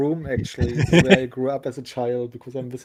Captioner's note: laughs